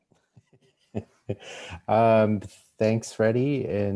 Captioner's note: laughs